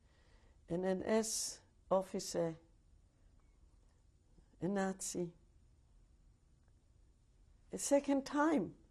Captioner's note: pauses for 3 seconds